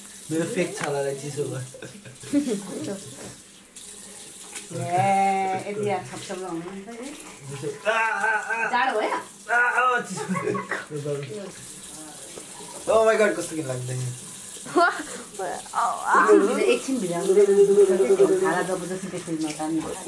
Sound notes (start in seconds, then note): 4.7 disappointed noise; 13.3 in Nepali